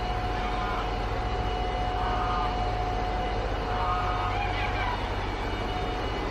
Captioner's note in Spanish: sonidos del motor, ¡y de unos gansos!